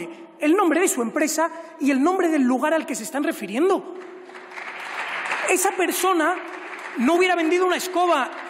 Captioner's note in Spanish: Aplausos